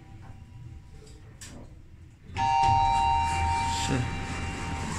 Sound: up chime rings

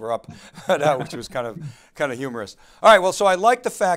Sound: laughing

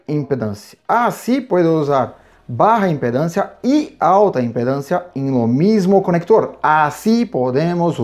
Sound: high impedance

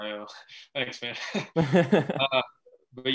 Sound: laughing

